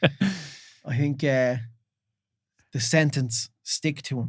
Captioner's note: laughing